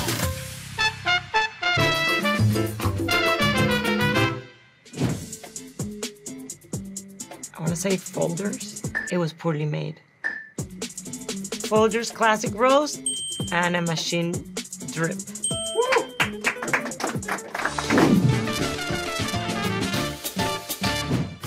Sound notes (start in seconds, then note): 1.2 upbeat Latin music; 8.5 wooden block clanks; 13.0 bell dings; 15.4 bell dings; 15.9 crew applauding; 18.0 upbeat Latin music